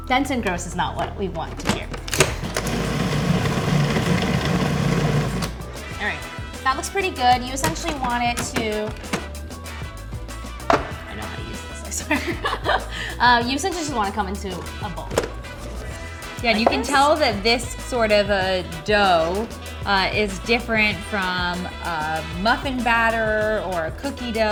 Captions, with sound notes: Dense and gross is not what we want to hear. (processor rumbling) All right, that looks pretty good. You essentially want it to-- I know how to use this, I swear. You essentially just want it to come into a ball. - Yeah, you can tell that this sort of a dough is different from muffin batter or a cookie dough.